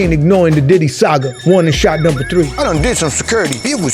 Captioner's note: siren blares